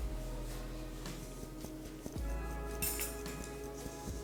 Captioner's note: sound of hand hitting the sifter